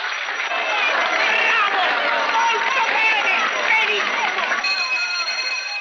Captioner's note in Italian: applaudono